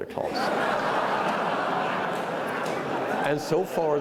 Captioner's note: attendees laughing